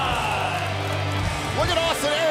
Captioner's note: crowd cheering